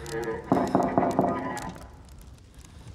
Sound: knock on door

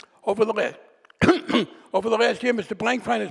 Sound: clears throat

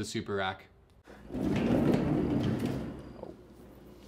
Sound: racks rumble

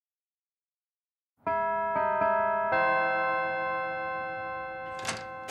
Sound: bells chime

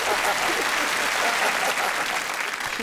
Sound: laughter

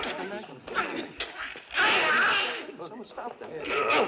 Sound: groaning

